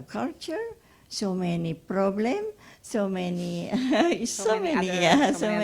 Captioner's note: laughs